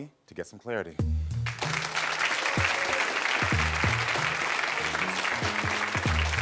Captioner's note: gentle music; audience applauding